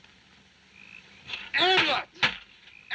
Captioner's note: ranting in French